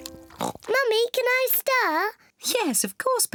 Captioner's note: oinks